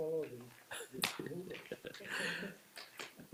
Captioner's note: mayor chuckles